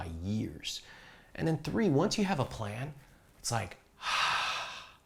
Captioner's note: exhales